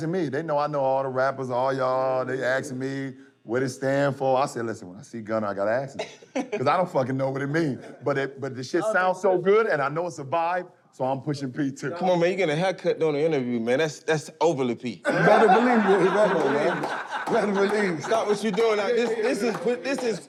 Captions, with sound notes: They know I know all the rappers, all y'all. They asking me what it stand for. I said, "Listen, when I see Gunna, I got to ask him," 'cause I don't fucking know what it means, but the shit sounds so good, and I know it's a vibe, so I'm pushing P, too. - Come on, man, you're getting a haircut during the interview, man. That's overly P. [laughter]